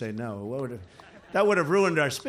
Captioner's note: laughter